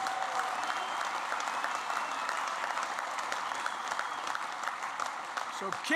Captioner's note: applause